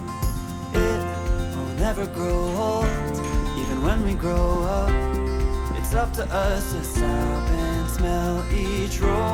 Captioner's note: haha